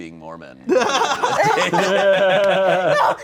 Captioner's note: everyone laughing